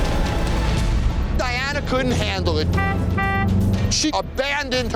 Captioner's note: horn honking